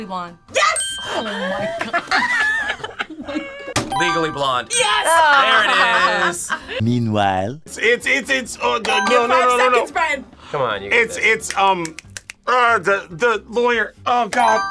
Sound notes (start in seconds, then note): 0.0 buzzer rings; 1.2 both laugh; 3.5 buzzer rings; 14.4 buzzer rings